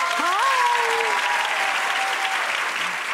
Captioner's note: applause